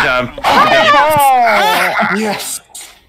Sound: cheering

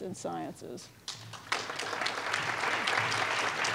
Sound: applause

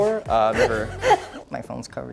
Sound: laughing

